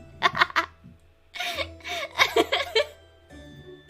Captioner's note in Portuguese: risada